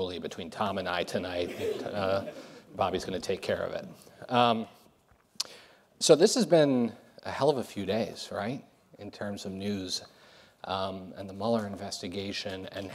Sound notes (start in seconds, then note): 1.4 audience laughs